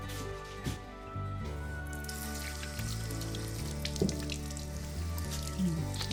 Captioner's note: water running; kisses